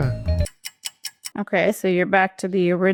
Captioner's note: clock ticks